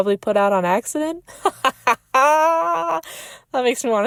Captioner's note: laughs